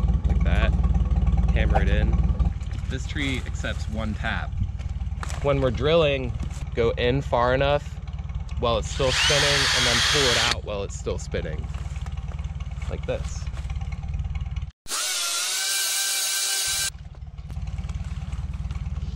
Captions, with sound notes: Like that. Hammer it in. This tree accepts one tap. When we're drilling go in far enough while it's still spinning and then pull It out while it's still spinning Like this... (Fake drill sound)